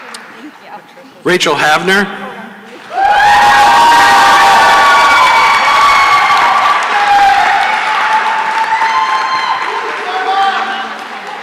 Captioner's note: cheering and applause